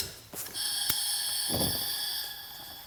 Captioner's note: hissing